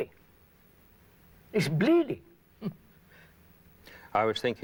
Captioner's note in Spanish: Risas